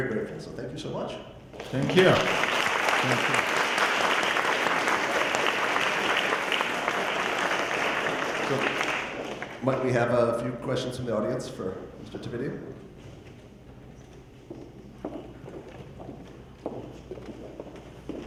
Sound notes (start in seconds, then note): 1.6 audience applause